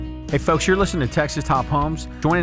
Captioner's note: voiceover